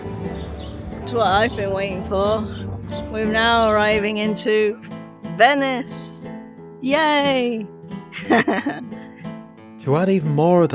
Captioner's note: laughs